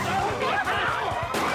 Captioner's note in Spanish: gritos